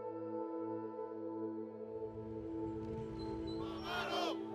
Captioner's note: chanting in Spanish